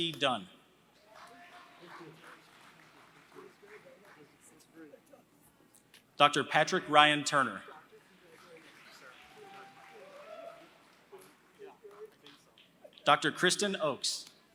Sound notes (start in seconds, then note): 0.0 applause; 7.9 applause